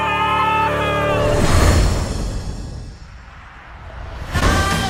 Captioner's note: booms loudly